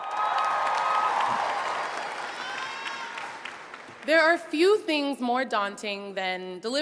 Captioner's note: applause